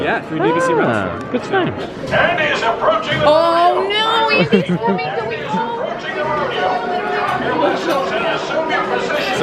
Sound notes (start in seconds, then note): 4.3 laughing